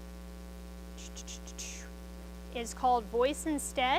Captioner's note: mouth noises